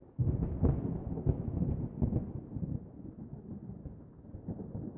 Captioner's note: thunder